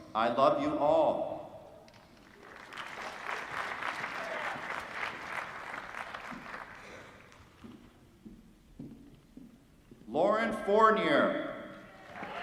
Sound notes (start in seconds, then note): 2.1 applause; 12.0 applause